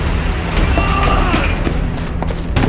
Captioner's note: Danny yells